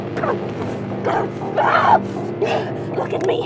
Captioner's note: both grunting